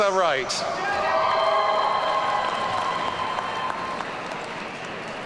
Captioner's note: audience cheering